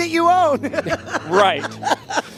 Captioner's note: laughing